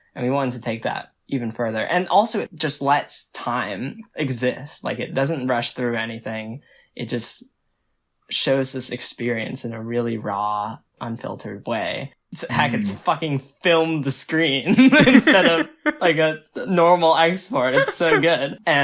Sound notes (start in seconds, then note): 14.6 both laugh; 17.5 laughs